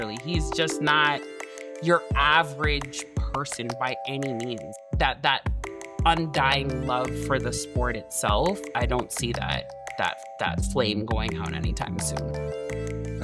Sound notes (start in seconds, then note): none